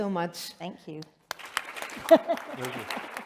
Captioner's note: applause